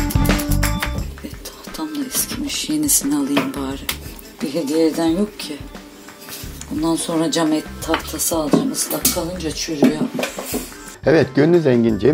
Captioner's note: cutting